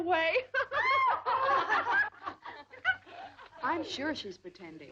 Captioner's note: girls laughing